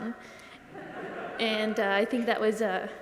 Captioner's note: audience laughs